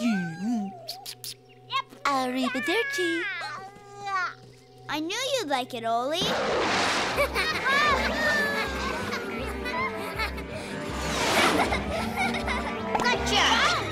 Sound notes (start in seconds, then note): 2.2 laughing; 9.7 giggling